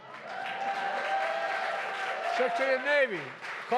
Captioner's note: applause